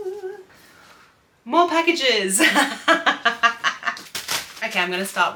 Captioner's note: laughs